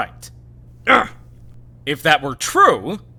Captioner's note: surprised grunt